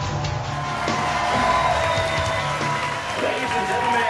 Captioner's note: audience clapping and cheering